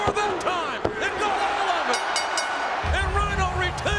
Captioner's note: bell ringing